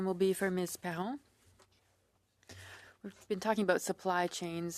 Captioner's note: speaking French